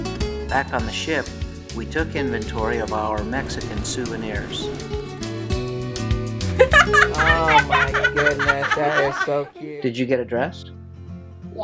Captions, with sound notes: Back on the ship, we took inventory of our Mexican souvenirs. [laughing] - Oh, my goodness. That is so cute! - Did you get a dress?